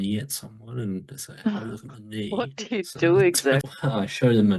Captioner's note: laughs